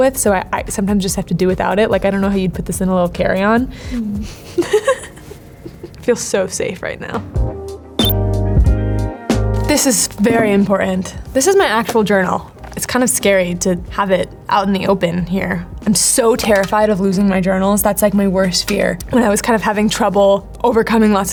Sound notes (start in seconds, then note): 3.9 giggles; 7.7 light ambient music